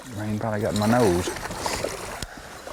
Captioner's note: splashing